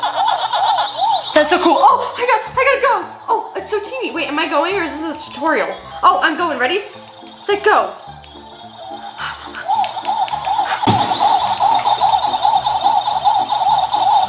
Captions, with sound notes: - That's so cool! Oh, I gotta go. Oh, it's so teeny! Wait, am I going or is this a tutorial? Oh, I'm goin', ready, set, go. (playful piano music) (video games chirping)